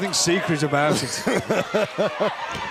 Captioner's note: laughter